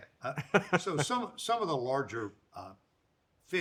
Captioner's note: Roy laughs